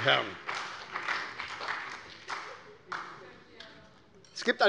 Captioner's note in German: Beifall bei der SPD